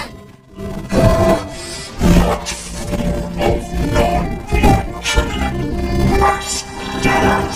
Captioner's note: growls